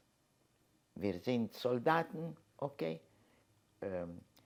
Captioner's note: german